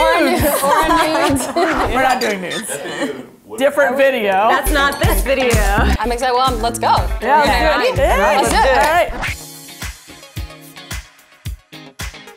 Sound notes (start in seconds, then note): 0.1 laughs; 9.7 upbeat music